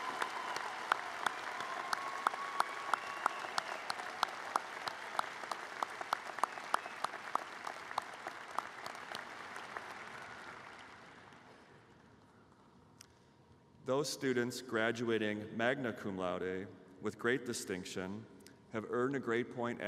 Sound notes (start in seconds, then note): 0.0 applause